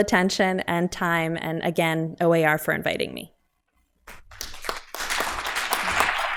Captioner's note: applause